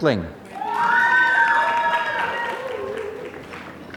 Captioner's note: applause